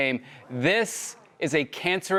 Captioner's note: crowd sighing